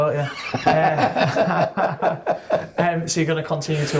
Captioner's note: laughing